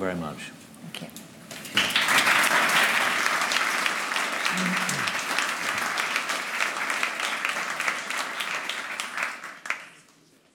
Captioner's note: applause